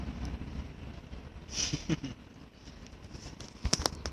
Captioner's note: laughter